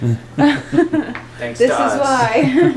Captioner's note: laughing